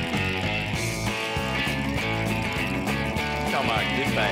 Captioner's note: water hose running